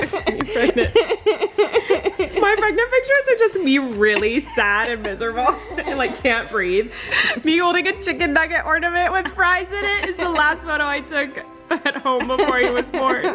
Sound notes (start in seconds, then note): 0.0 laughing; 11.7 laughing